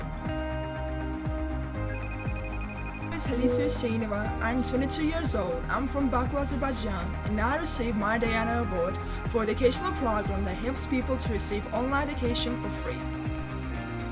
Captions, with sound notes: (phone rings) - Khalisa Huseynova. I am 22 years old. I'm from Baku, Azerbaijan and I received my Diana Award for the educational program that helps people to receive online education for free.